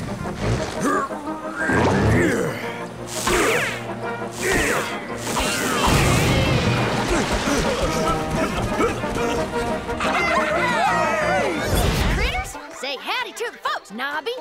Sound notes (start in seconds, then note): 1.5 grunting; 7.0 grunting; 10.0 cheering